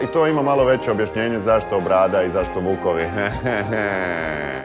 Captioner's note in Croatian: smijeh